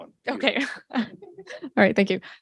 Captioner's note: laughs